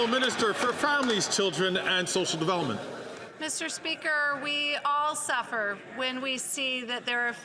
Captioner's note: some Applause